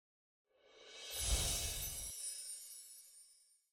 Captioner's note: shimmering sound